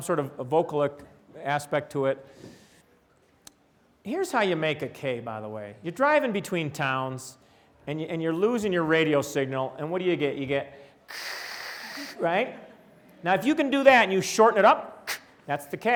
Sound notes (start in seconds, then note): 11.1 vocalizes sound of static